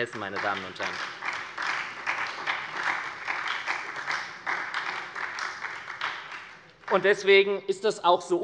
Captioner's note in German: Beifall bei der SPD